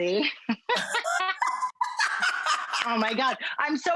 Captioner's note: both laughing